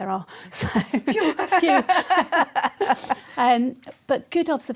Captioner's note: laughter